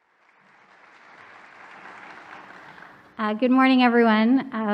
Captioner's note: audience applause